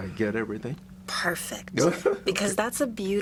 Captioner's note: laughs